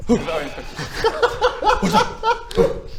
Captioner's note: heartless laughter